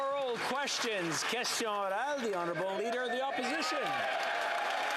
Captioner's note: applause